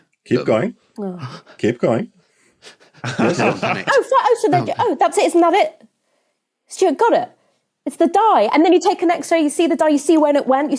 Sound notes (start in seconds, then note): 2.2 breathes rapidly; 2.8 laughs